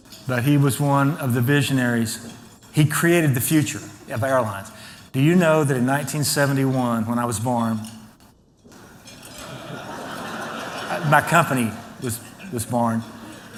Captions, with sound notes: But he was one of the visionaries. He created the future of airlines. Do you know that in 1971, when I was born. [ Laughter ] My company was born.